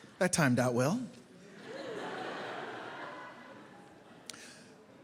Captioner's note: laughter